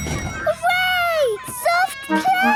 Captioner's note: dinging